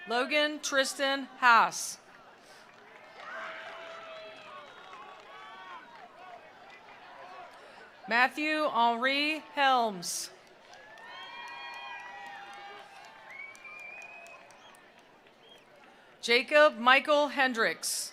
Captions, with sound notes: Logan Tristan Hass. (attendees applauding) (attendees cheering) Matthew Aure Helms. (attendees applauding) (attendees cheering) Jacob Michael Hendricks.